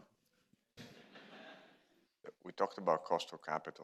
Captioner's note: audience chuckling